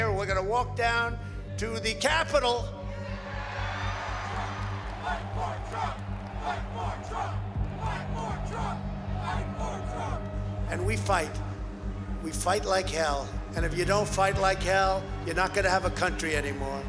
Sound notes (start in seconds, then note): 3.8 cheers and applause; 5.5 crowd chanting